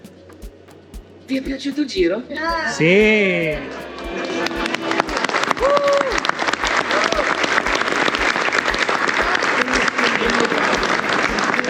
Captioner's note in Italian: Applauso